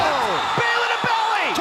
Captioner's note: cheers & applause